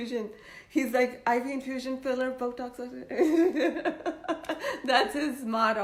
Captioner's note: laughs